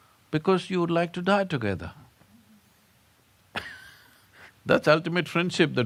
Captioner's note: laughs